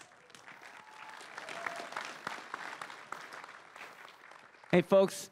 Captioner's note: crowd cheering and applauding